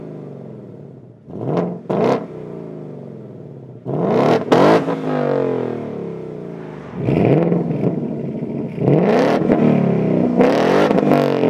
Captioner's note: engine Revs